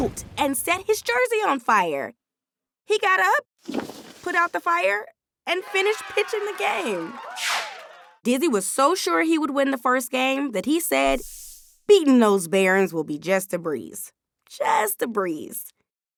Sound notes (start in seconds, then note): 0.0 thunder crashing; 5.5 audience cheering